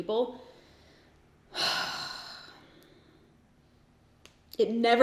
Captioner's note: sighs